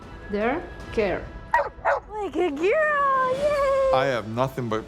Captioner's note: barking